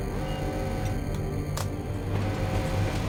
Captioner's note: alarm sound still beeping